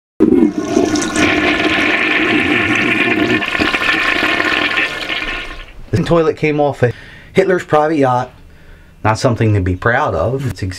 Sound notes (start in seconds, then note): 0.2 toilet flushing sound